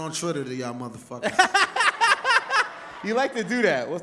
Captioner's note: laughs